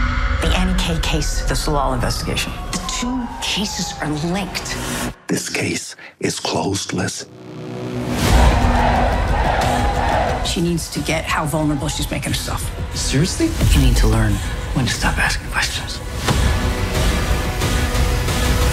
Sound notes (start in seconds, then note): 8.4 chanting; 16.0 music intensifies